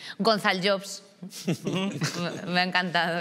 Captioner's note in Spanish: Risas